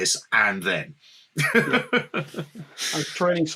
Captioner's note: chuckles